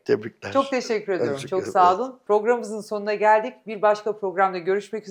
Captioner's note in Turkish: boğazını temizler